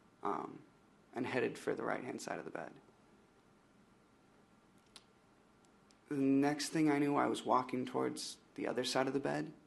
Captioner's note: smacks lips